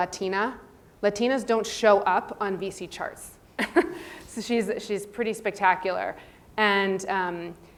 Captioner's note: laugh